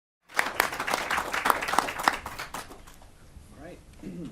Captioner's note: audience applauds